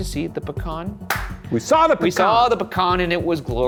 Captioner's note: clapping